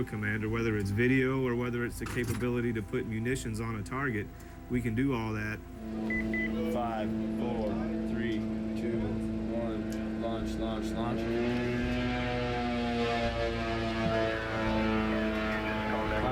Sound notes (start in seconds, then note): 5.6 machine beeping; 11.7 drone engine buzzing